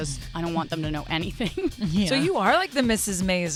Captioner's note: laugh